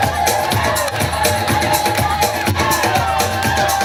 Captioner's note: crowd Cheers